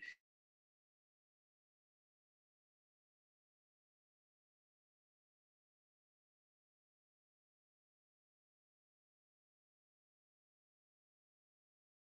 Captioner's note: 00:20:38 – 00:20:50 – audio cutout